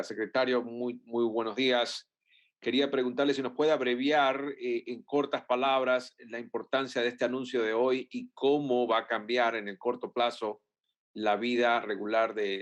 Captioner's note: speaks Spanish